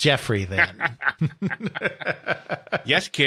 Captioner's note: laugh